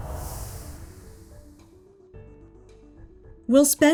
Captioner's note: none